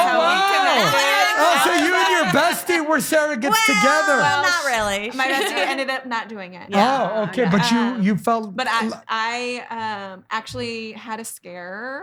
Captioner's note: laughing